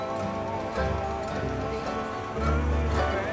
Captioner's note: chuckling